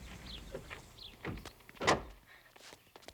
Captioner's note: car door slams